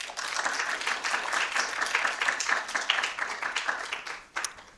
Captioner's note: attendees clapping